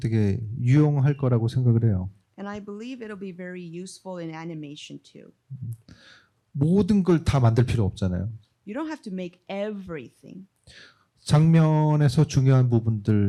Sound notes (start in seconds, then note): 6.2 speaking korean; 10.9 speaking korean